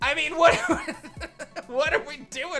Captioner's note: chuckles